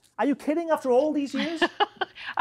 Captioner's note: laughing